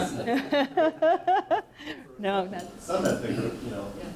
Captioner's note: laughs